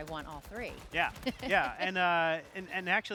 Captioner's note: laughs